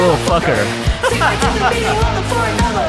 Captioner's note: laughs